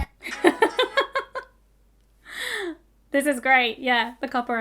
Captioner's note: laughing